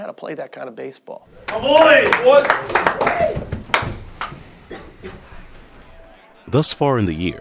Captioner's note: cheering